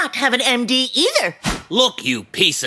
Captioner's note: swish sound, crosscutting back